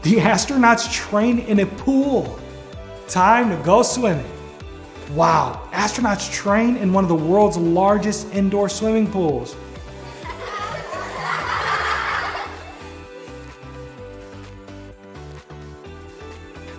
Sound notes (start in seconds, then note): 9.9 children laughing; 13.3 upbeat music